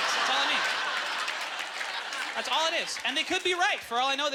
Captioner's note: audience laughter